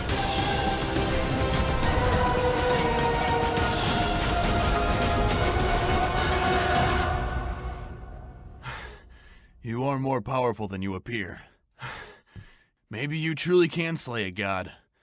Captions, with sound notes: *panting* You are more powerful than you appear. Maybe you truly can slay a God...